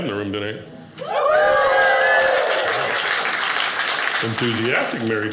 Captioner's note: audience cheers